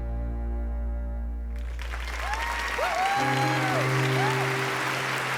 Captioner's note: applause